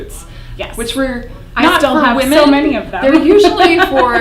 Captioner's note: laughs